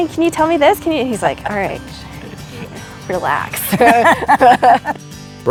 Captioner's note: laughter